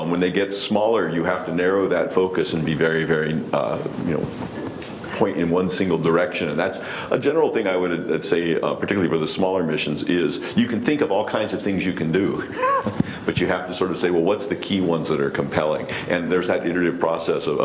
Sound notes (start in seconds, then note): 12.4 laughs